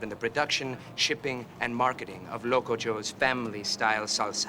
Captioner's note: none